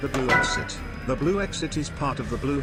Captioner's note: door and tone sounds